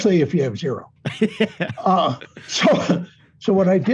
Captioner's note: laughing